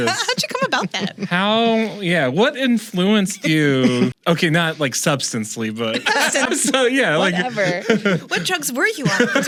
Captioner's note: laughter